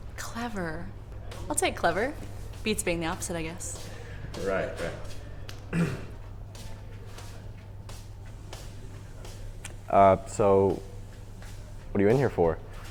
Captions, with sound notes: - Clever, I'll take clever. Beats being the opposite, I guess. - Right, right. (Bob clears throat) So what are you in here for?